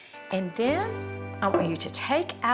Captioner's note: pot tapping surface